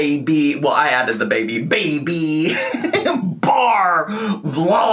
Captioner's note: laughs